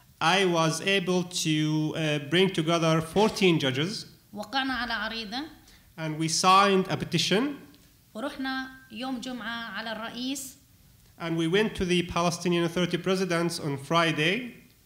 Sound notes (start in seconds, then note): 0.0 speaking arabic; 4.1 speaking arabic; 8.0 speaking arabic